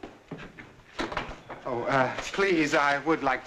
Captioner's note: door clicks shut